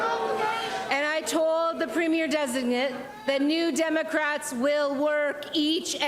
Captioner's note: crowd jeers